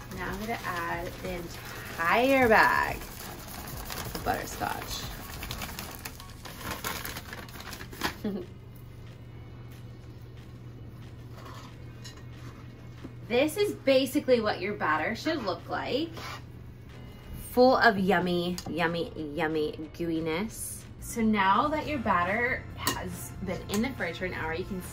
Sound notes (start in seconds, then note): 5.3 packaging rustling; 5.3 quiet upbeat music